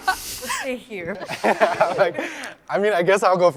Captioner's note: laughs